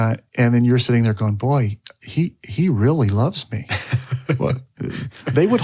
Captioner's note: laughs